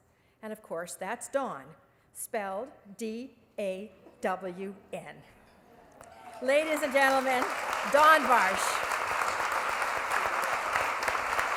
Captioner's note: applause